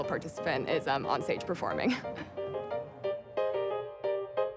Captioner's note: chuckles